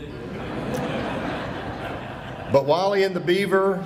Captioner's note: audience laughing